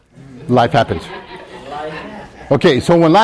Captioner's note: students laughing; student laughs